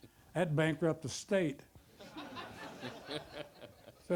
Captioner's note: audience laughter